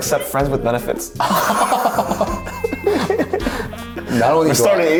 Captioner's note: both laugh